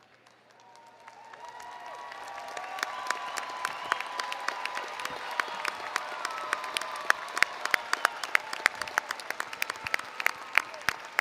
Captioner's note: applause & Cheering